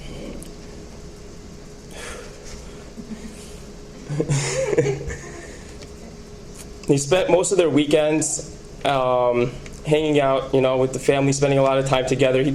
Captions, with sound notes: (woman laughs) (laughs) They spent most of their weekends hanging out with the family, spending a lot of time together.